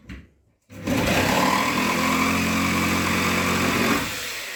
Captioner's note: jigsaw cutting